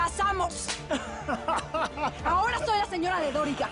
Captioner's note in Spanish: Risas